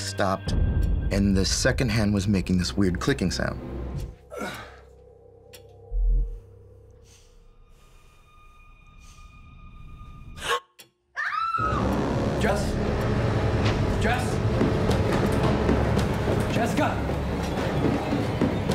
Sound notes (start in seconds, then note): 5.5 clicking sound; 6.2 heavy breathing; 9.3 gasp; 11.1 scream; 12.1 scary music